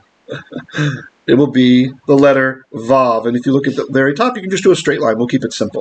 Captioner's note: Hebrew